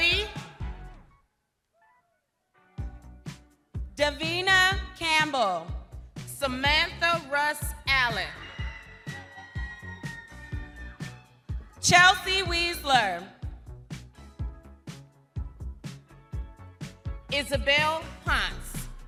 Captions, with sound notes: - Davina Campbell. - Samantha Russ Allen. (crowd cheering) - Chelsea Weisler. - Isabelle Huntz. (upbeat music continues)